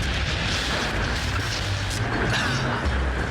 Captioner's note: sounds of a lightning strike